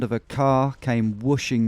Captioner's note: none